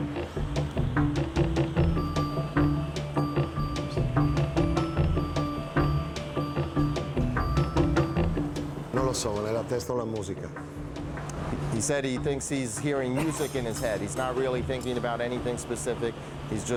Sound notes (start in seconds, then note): 9.4 speaking foreign language